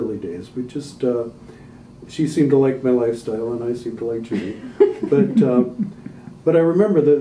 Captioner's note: laughter